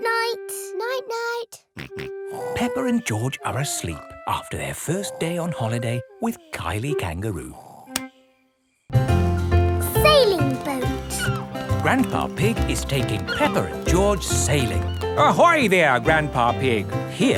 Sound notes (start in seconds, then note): 2.4 snores; 2.4 snorts